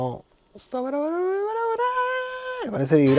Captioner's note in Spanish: Tarareando